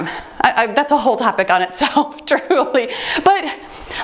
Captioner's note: laughs